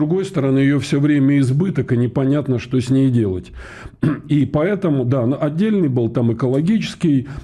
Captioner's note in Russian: откашливается